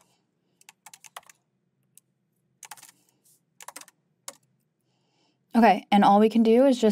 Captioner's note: keyboard clacking continues